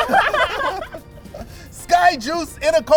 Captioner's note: laughter